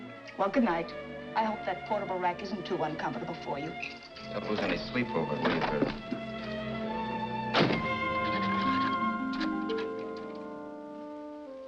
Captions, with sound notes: Well, good night. I hope that portable rack isn't too uncomfortable for you. Don't lose any sleep over it, will you, Vera? [key scratching lock]